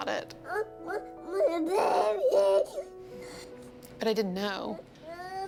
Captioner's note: crying